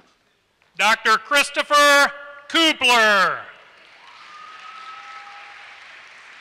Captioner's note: applause